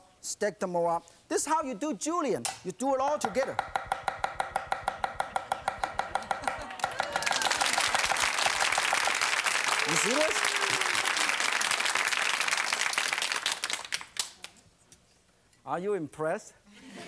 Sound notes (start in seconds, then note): 3.2 chopping; 5.4 laughing; 7.3 clapping; 11.2 clapping